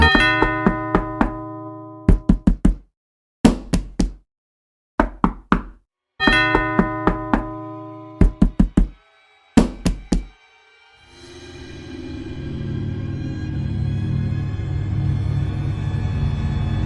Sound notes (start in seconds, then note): 0.0 doorbell dinging; 0.0 Nick knocking; 6.2 Nick knocking continues; 6.2 doorbell dinging; 10.3 eerie dramatic music